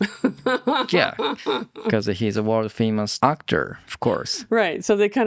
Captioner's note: laughs